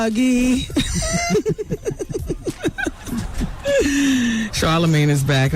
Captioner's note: laughter